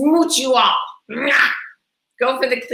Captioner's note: blowing kisses